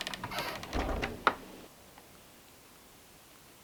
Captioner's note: door creaking